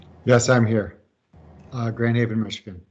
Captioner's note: pat